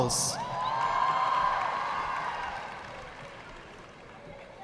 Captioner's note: audience clapping